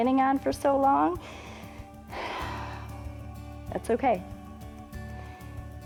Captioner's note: inhales and exhales